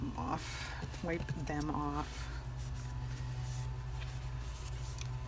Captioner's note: none